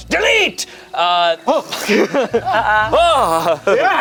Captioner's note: everyone laughs